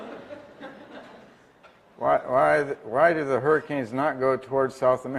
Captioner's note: laugh